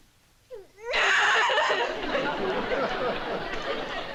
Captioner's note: sobs